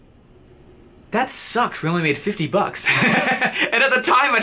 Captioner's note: laughs